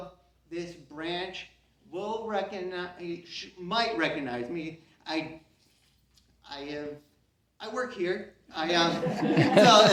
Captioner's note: CROWD laughs